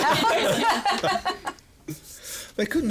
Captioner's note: laughs